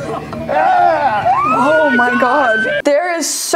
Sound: contestants cheer; Tila screams

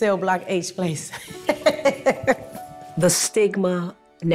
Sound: laughing

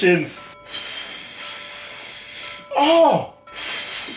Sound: blows

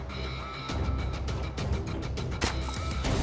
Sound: squishing

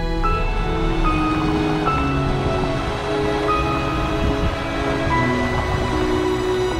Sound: drone

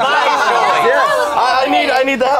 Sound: loud group dissent

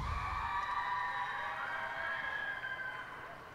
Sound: cheers and applause

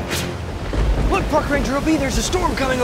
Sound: thunder rumbles

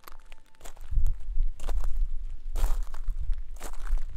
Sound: footsteps crunching

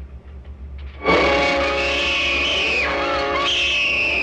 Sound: suspenseful music; screams

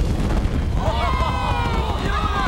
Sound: cheering

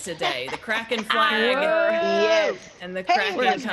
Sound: laugh

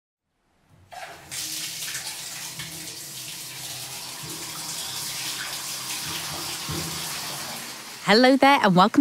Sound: sound of water running out of taps

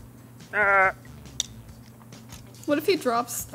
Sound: Linus grunts

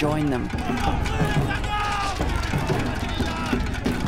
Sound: shouting

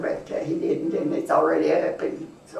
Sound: laughs

